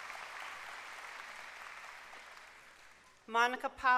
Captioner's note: applause